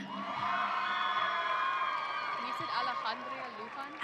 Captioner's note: audience cheering